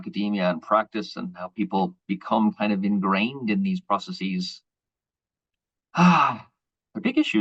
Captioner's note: deep sigh